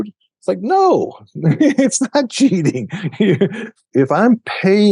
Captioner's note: laughs